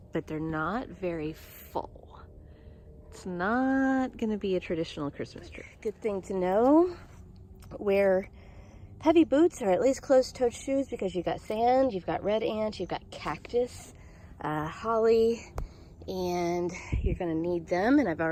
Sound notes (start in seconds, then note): none